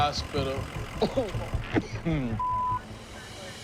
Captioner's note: coughs